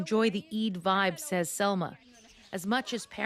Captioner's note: speaking Alternate Language